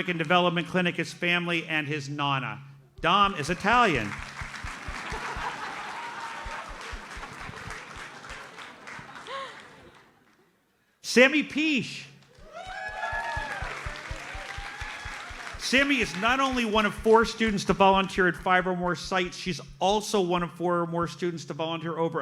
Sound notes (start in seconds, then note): 3.4 audience laughs and applauds; 12.3 audience cheers and applauds